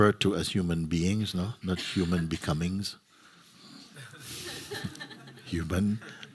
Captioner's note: laughter